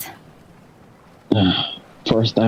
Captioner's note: sighs